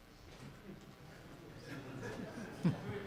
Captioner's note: chuckles